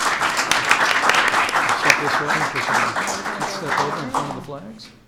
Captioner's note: applause